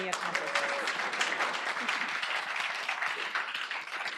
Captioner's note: applause